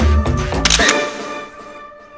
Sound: camera clicks

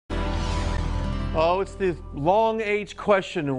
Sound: air whooshing

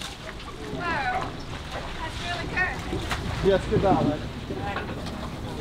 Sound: people speaking in a foreign language

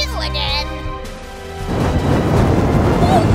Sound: long fire blast SFX

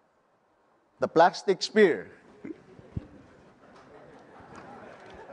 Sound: laughter

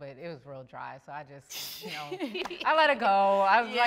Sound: laugh

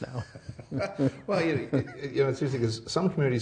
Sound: laughing

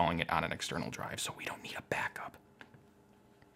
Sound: whispering

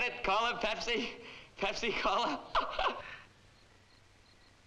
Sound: laughs

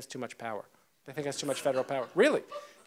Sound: audience laughs

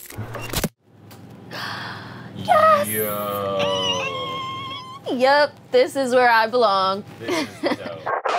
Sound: gasp

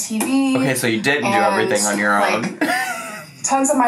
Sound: laughs

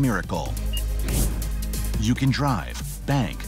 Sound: device beeps; air whooshing

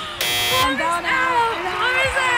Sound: buzzer

